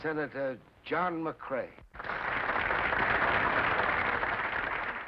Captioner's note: applause